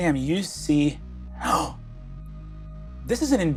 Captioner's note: gasps